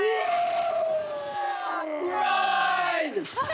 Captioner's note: roaring and screaming